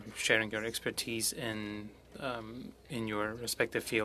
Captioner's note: speaking french